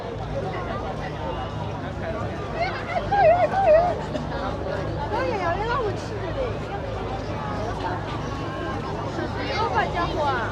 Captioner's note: people chattering